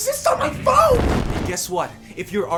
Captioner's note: explosion